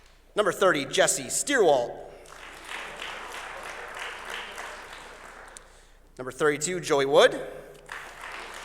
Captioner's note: applause; applause